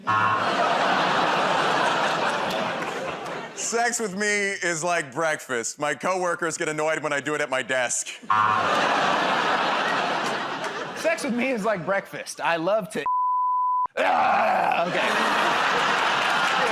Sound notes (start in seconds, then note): 0.0 audience "Oh"s; 8.3 buzzer; 14.0 grunts